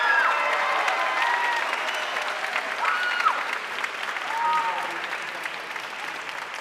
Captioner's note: audience cheering and applauding